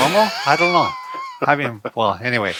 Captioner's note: laughs